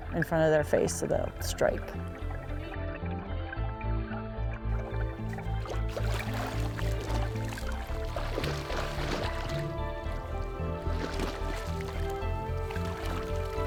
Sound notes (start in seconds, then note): 2.3 soothing instrumental music; 2.3 splashing water